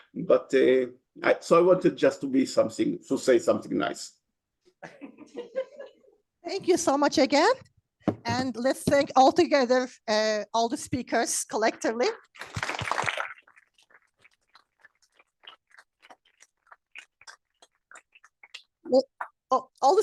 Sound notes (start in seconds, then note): 4.8 laughter; 12.3 applause